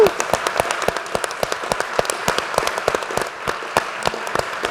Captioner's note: applause